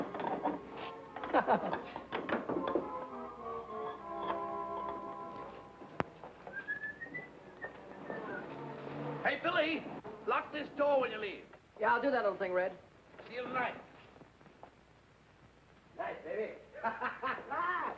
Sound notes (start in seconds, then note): 1.2 Billy chuckling; 6.4 Red whistling; 16.7 happy laughing